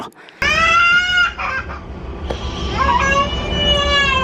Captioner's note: baby crying